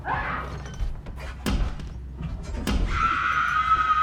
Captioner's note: tense ominous music; Kira banging on object; Kira screaming